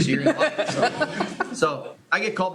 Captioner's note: laughter